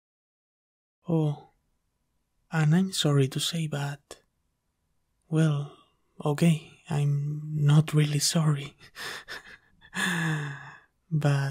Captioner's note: chuckles